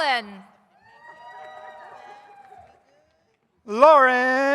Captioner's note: audience cheers